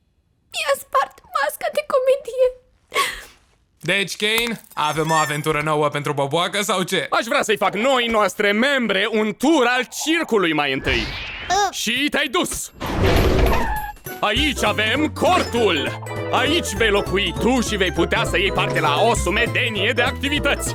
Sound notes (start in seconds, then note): 4.4 whimpers